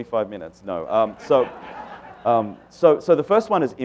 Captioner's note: laughter